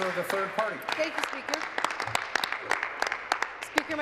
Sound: applause

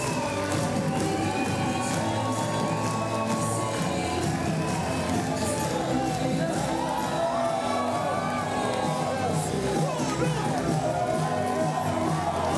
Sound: cheering and Applause

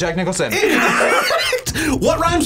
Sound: both laugh

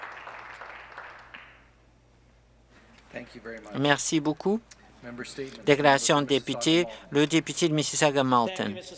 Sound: some Applause

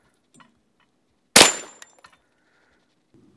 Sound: bang

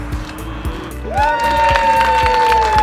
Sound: cheering, clapping

